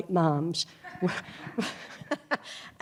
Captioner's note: laughter